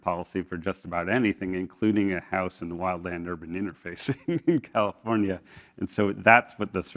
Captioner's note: laugh